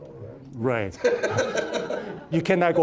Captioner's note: all laughing